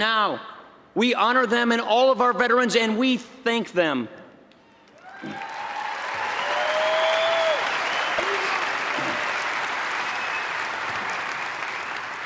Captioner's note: applause